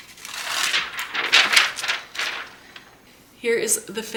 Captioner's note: paper rustling